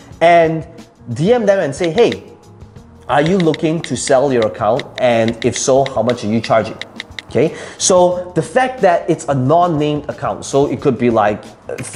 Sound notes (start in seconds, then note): 3.1 keys clicking